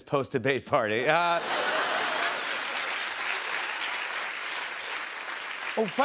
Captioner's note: laughter and applause